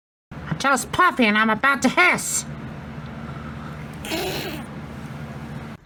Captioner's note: hisses